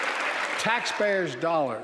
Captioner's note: applause